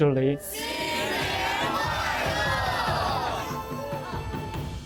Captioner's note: group speaking in Mandarin; lively music